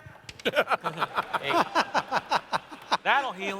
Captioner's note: laughter